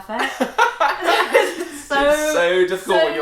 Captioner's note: laughs